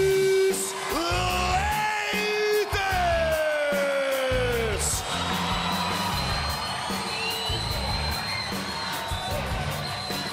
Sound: speaking foreign language

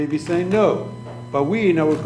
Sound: speaking foreign language

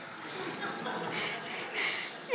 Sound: audience laughs

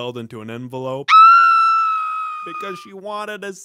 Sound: screams

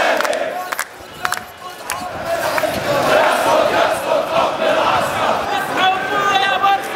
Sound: chants

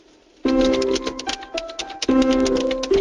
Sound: key strokes

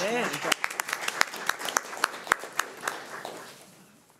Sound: everyone applauding

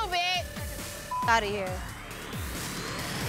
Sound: beep

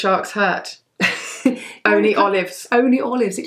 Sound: laughs

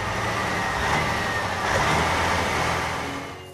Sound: engine Running

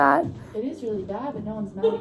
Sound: lady Speaking

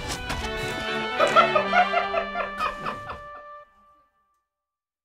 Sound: laughing

